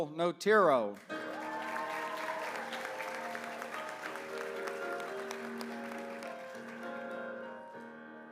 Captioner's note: applause